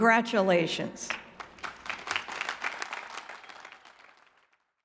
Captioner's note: audience clapping